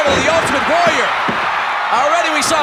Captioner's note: audience cheering